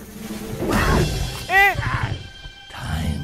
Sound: scream

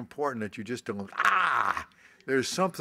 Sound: yells

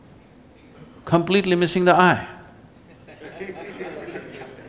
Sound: laughter

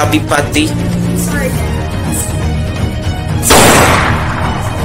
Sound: gunshot

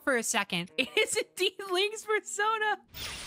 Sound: laughing

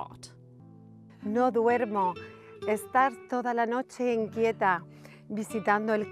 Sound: speaks in Spanish

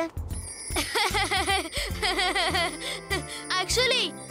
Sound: laughing

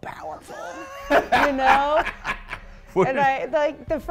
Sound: laugh

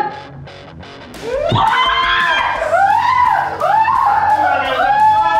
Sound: both shout and scream

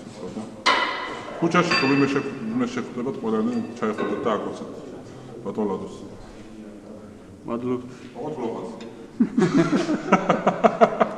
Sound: laughs

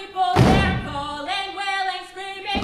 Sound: characters stomping

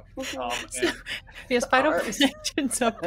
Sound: people laughing

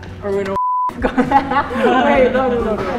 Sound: beep; laughs

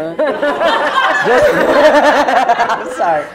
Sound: laughter

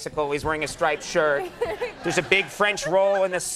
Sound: crowd and Lisa laughing

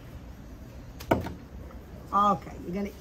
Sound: lettuce thumping

